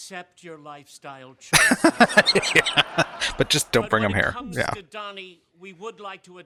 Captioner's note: laughing